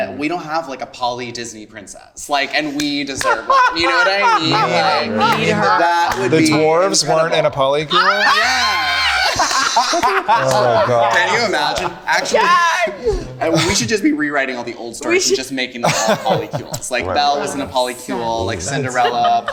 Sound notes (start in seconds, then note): 7.9 group laughing